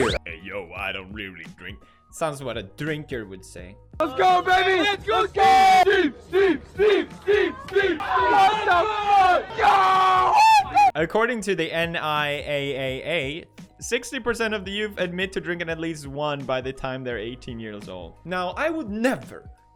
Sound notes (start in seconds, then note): 5.8 cheering; 8.0 more cheering as Tfue chugs down alcoholic drinks